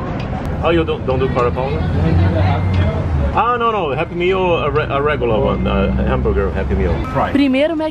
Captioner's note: english conversation